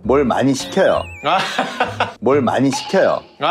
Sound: laughter

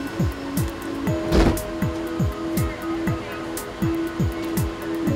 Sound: door slam

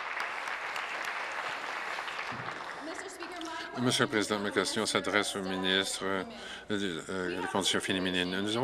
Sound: applause

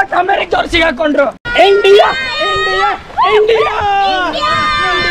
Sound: all cheering

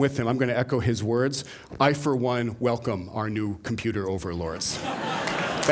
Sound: laughter; applause

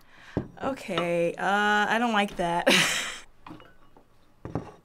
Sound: laughs

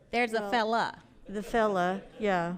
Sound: audience laughs

